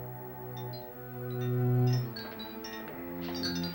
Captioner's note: clinking